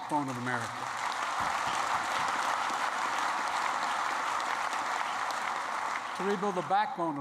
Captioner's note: applause